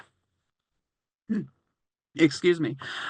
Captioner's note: clears throat